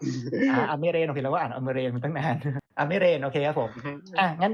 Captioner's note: laughs; laughs